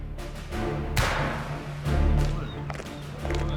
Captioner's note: gun fires; upbeat music